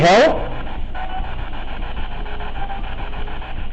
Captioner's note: static buzzing